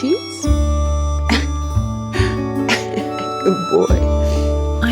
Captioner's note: laughs